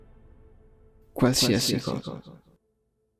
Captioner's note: Snape's voice